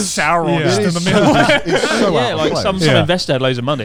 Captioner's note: laughs loudly